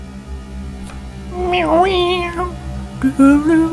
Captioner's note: cat noise?